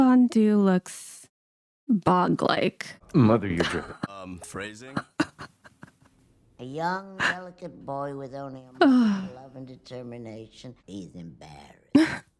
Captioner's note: laughter